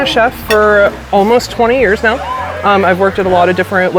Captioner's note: diners exclaiming